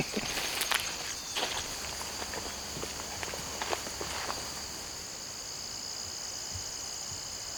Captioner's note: birds